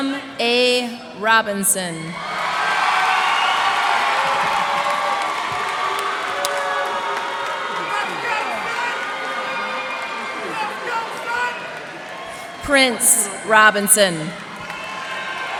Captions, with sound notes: Kislam A. Robinson. [cheers and applause] Prince Robinson.